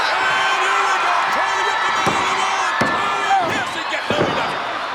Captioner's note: crowd cheering drowns out Vince